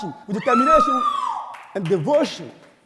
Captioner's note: audience whooping